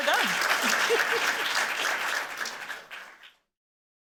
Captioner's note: applause